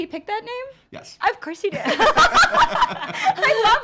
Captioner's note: laughs